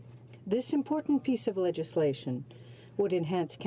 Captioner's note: speaking in french